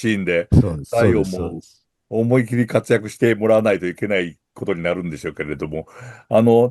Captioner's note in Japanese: 咳払い